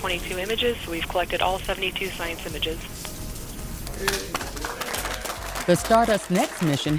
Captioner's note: applause